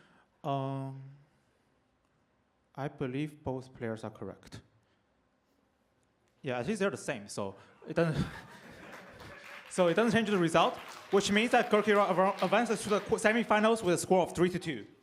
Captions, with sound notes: I believe both players are correct. Yeah, these are the same. So it doesn't-- [APPLAUSE] So it doesn't change the result, which means that Gurkeerat advances to the semifinals with a score of 3-2.